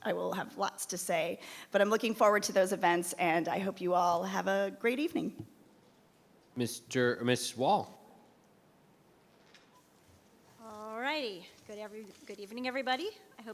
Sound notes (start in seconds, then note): none